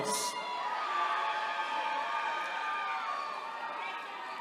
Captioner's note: attendees cheering